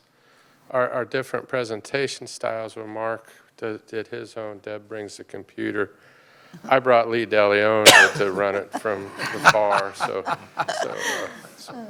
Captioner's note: laughter